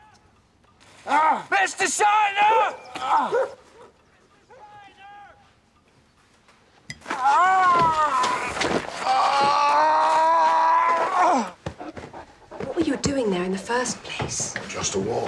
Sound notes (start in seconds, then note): 7.3 Mr.Day groaning in pain